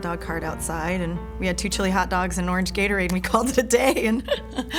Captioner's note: laugh